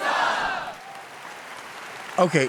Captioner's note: audience applauds